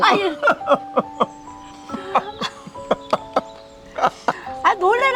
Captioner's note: both laughing